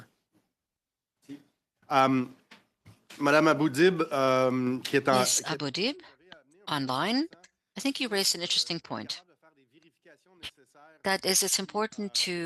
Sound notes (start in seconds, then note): 7.6 speaking French